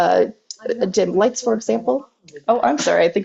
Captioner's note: Alexa chatters in background